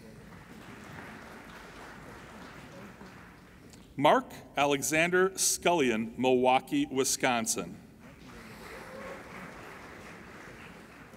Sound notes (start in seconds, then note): 0.0 applauding; 8.0 applauding